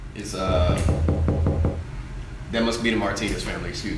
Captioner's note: knocking